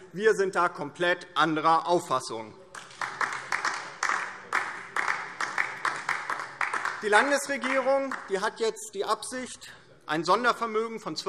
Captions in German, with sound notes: Wir sind da komplett anderer Auffassung. [Beifall DIE LINKE] Die Landesregierung hat die Absicht, ein Sondervermögen in Höhe von